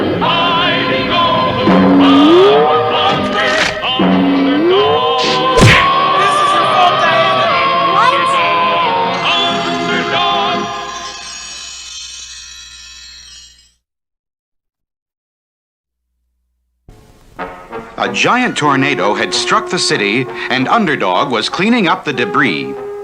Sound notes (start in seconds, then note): 5.2 crash!